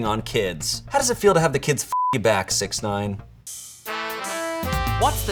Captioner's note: beep